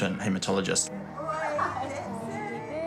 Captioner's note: chuckles